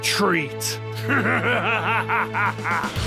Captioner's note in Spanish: Ríe amenazadoramente